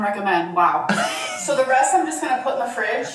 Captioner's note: laughs